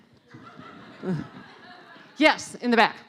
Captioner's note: laughing